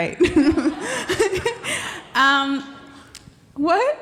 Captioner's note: laughing